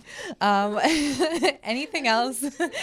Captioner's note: laughter